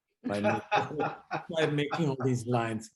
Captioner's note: laughs